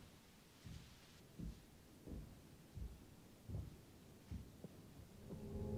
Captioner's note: footsteps approach; suspenseful music